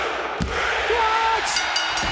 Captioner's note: bell ringing